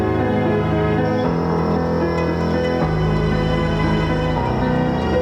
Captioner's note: leaves rustling